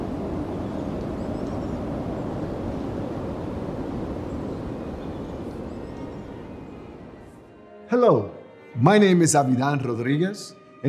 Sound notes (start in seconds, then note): 2.5 wind